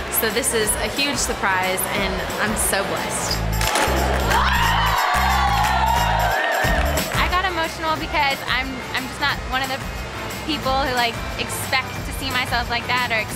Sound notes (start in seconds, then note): 3.6 crowd exclaims; 3.7 camera snaps